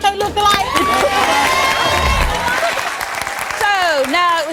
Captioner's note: audience cheering